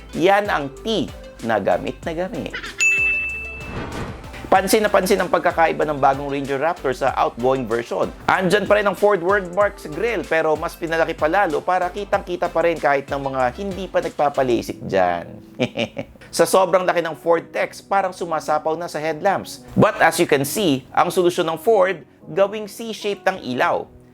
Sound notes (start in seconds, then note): 15.4 chuckles